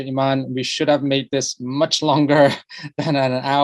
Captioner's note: laughs